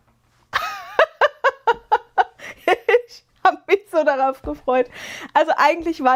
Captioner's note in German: gelächter